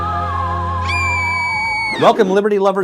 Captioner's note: high-pitched screaming